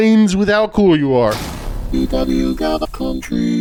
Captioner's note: crashing sound